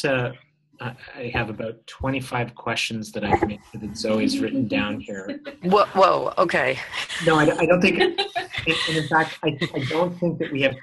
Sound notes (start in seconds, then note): 4.4 laughter; 7.0 laughter